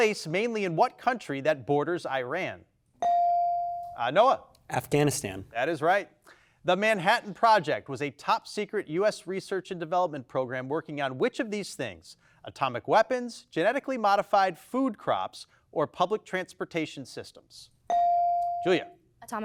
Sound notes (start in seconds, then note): 3.0 bell dings; 17.9 bell dings